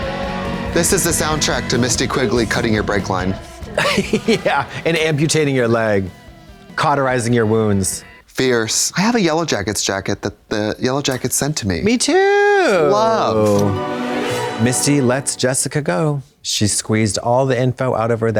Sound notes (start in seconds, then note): 12.9 ghostly chime